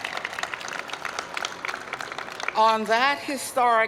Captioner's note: applause